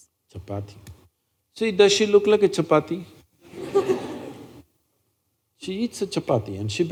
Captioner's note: laughter